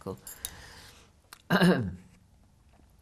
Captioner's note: clears throat